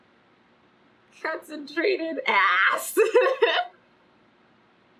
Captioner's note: laughs